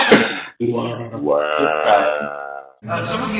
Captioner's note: deep wahh